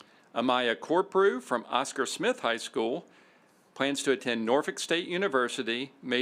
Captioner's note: none